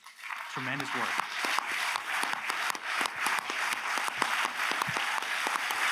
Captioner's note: audience applauds